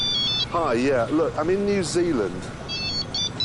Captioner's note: phone rings